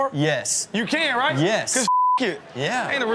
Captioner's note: beep